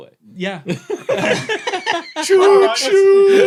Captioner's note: group giggling